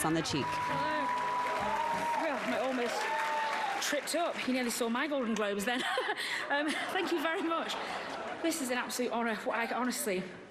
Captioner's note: applause